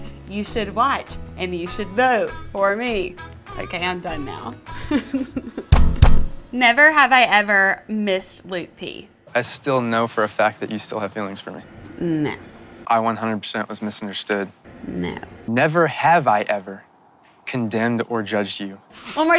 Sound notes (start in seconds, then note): 4.7 laughing